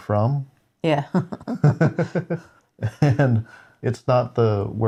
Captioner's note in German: lacht